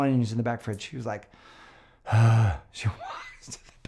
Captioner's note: sighs